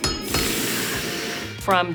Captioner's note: metal clanking; sizzling